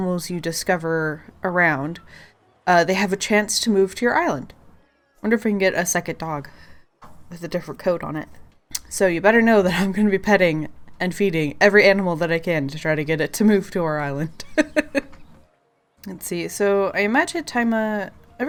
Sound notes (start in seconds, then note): 14.4 laughs